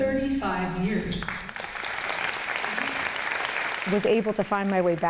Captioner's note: applause